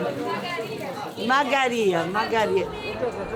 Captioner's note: in Georgian